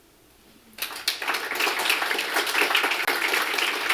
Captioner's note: applause